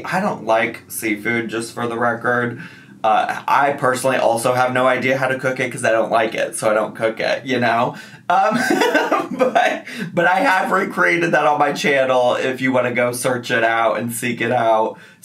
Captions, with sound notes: I don't like seafood just for the record. I personally also have no idea how to cook it 'cause I don't like it so I don't cook it, you know (laughing) But I have recreated that on my channel if you want to go search it out and seek it out.